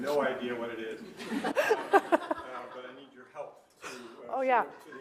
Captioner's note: laughter